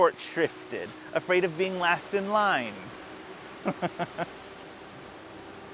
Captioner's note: laughs